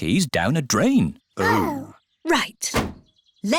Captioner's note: laughs; snorts